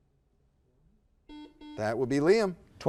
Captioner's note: buzzer beeps